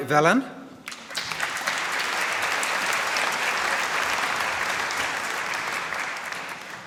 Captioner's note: applause